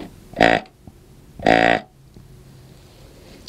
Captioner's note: sound of grunt call